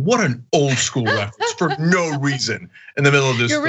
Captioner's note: laugh